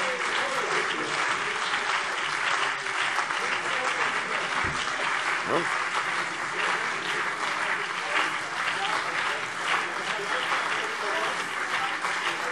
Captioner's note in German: Beifall CDU und BÜNDNIS 90/DIE GRÜNEN - Zurufe